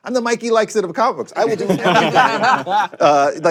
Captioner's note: laughter